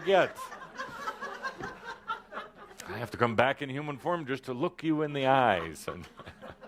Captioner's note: laughter; chuckles